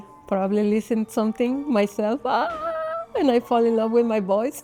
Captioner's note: yells